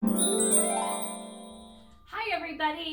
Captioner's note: chimes ringing